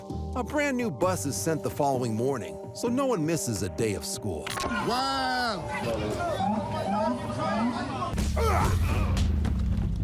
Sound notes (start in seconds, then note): 5.7 indistinct chatter; 7.6 police siren whooping; 8.2 men grunting